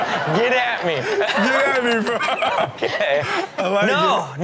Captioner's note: laughs